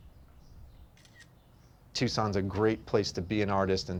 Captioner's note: camera snaps